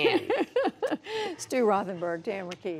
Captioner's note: laughter; laughter